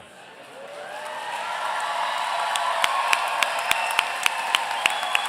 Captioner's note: audience cheering